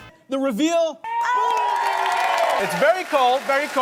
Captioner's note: crowd cheers